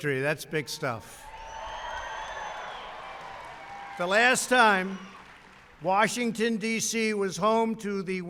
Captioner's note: applause